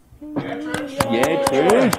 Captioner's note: applause